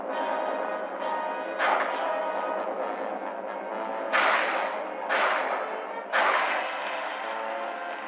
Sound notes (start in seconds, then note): 1.6 gunshot; 4.0 gunshots